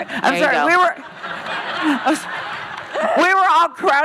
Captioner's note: laughing